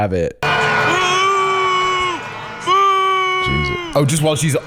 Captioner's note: crowd booing